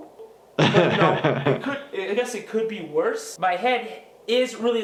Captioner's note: laughs